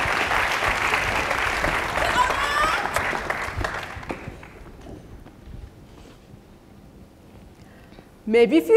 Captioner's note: applause